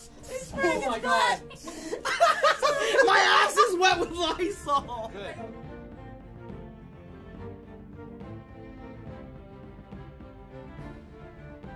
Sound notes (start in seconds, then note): 1.4 laughs